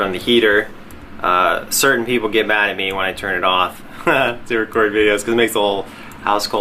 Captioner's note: laughs